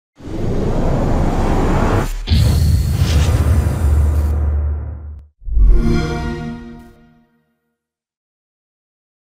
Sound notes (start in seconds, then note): 0.0 New Xbox Sound